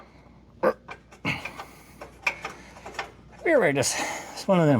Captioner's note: grunts